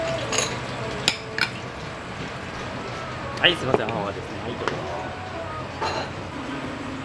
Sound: foam

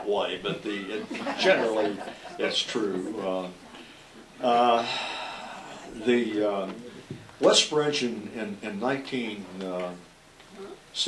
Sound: sighs

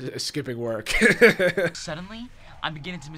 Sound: laughs

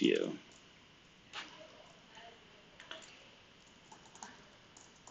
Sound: computer keyboard clicking

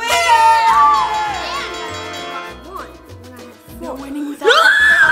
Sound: party horns; victorious music; bell ringing; screams

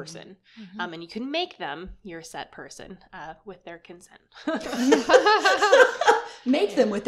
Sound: laughter

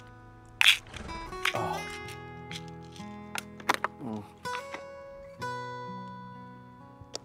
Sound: Christian sighs; horse grunts

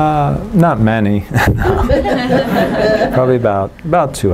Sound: laughter

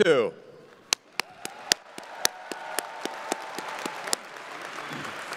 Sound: crowd applauding

